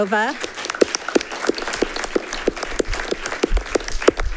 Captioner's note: generous applause rings